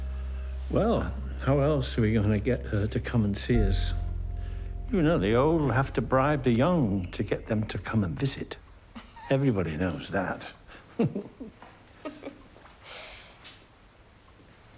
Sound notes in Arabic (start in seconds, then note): 10.6 يضحك; 10.8 كلاهما يضحك